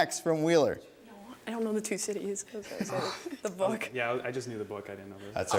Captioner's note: murmuring